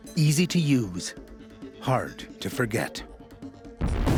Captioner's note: explosion